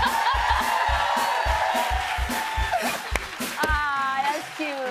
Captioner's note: cheers and applause